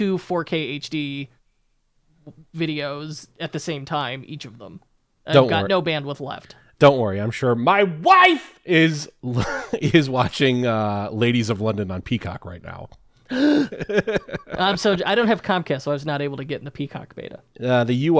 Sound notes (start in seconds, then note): 13.3 laugh